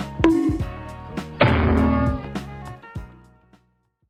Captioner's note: cartoon bonk; large cartoon bonk